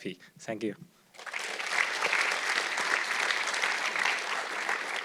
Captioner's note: audience clapping